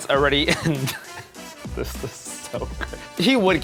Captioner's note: chuckles